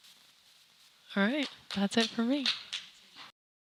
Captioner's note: clapping